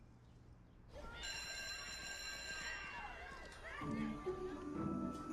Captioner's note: bell ringing